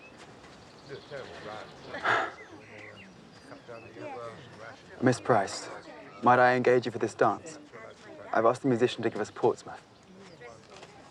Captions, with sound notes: (sighs) Miss Price, might I engage you for this dance? I've asked the musician to give us "Portsmouth."